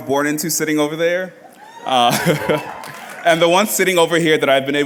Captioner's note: laughs